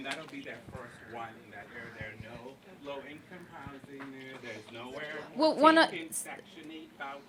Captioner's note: speaking off microphone